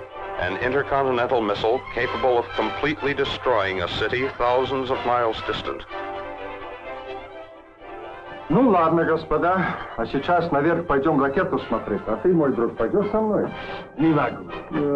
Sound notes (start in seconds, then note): 6.0 dramatic orchestral music; 8.0 military leaders speaking in Russian; 10.7 dramatic orchestral music